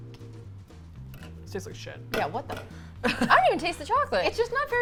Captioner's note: laughs